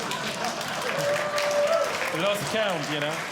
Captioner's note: audience Laughing; audience Clapping